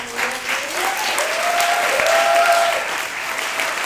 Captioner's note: clapping